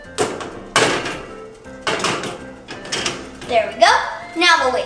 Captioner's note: pan rattling